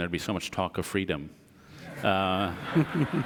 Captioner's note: audience laughs